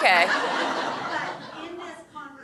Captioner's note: audience laughing